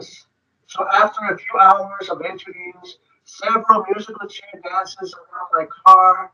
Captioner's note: speaking distorted